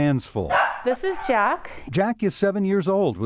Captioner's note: dog barks